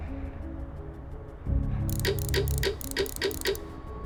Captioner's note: dramatic music plays; ticking